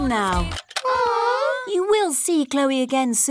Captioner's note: music stops; all groan